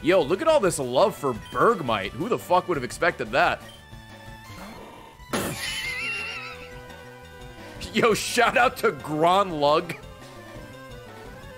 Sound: laughs

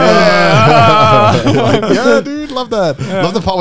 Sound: laughing

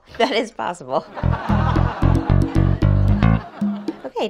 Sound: canned laughter

